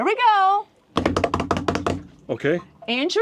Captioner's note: hands thudding rhythmically